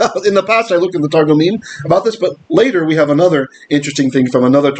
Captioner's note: Hebrew